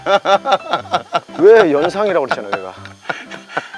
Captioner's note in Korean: 폭소